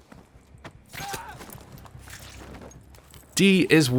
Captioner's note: man screaming